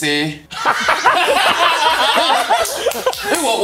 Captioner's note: laughs